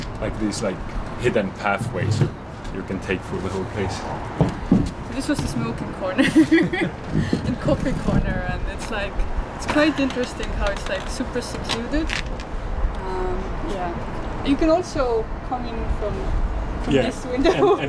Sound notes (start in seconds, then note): 6.1 laughs